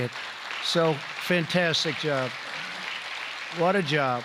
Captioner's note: applause